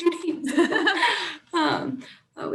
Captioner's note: laughing